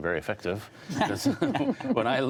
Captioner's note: laughter